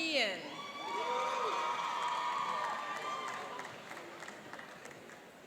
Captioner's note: cheering and applauding